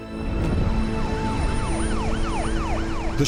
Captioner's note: sirens